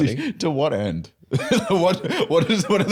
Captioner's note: laughs